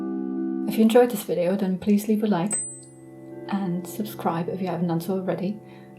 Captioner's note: bell sound